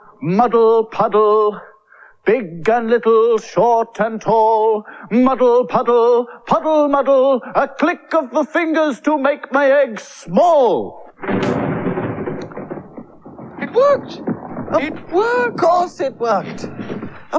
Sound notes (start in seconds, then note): 10.7 clicks; 11.1 sound Of Thunder